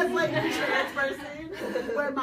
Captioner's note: audience laughs